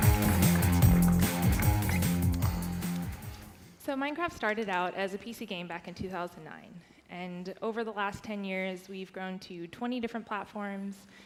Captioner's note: applause